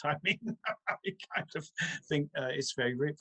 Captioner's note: chuckles